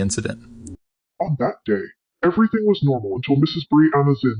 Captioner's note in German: verzerrt